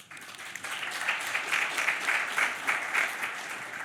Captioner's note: applause